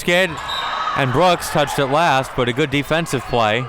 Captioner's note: whistle blows